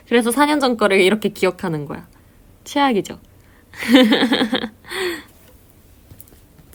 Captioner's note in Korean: 웃음